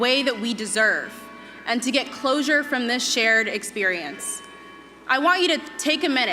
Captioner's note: bells tolling